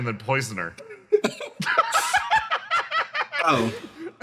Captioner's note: laughs